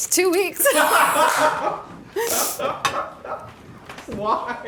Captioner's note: laugh